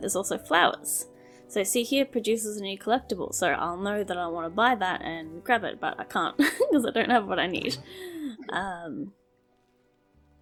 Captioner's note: laughs